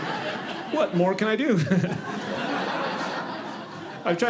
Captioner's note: audience laughing